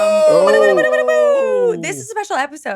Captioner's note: mimics horn